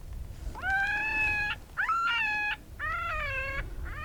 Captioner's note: animal call